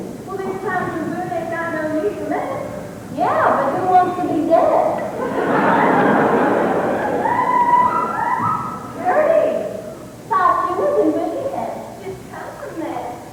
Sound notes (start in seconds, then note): 5.0 laughter; 7.0 annoying laugh